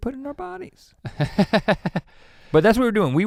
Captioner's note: chuckles